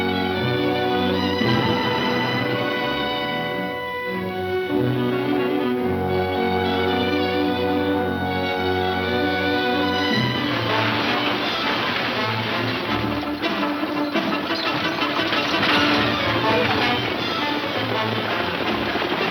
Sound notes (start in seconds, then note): 9.7 intense music; 12.9 chains rattle; 16.1 horses gallop